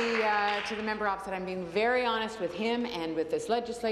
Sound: applause

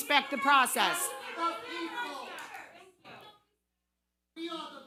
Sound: audience clamoring

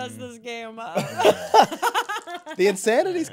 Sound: laughing

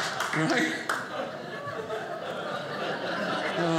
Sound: audience laughing

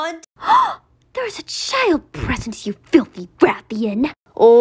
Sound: motherly gasp

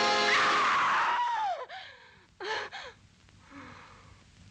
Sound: Georgia screaming

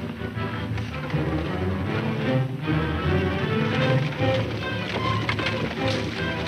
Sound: tense orchestral music; running hoof beats

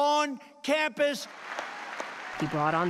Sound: cheering and applause

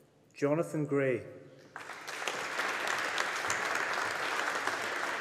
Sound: audience applauding

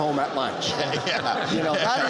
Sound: laughter

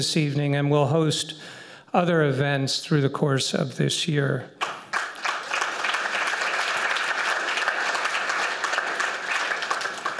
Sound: applause

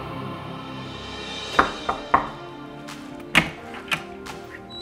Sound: knocking on door

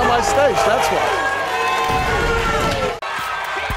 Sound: audience shouting

